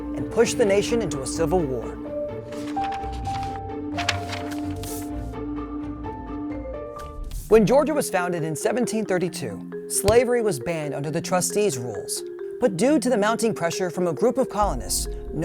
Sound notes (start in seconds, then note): 2.3 paper rustling; 2.5 pensive music